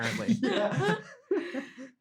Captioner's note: all laughing